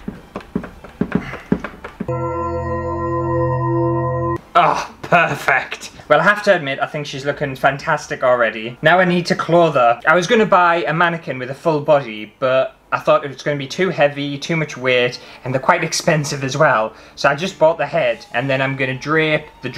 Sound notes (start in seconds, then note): 2.1 spooky Noises